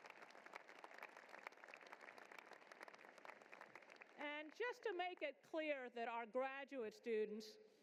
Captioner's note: applause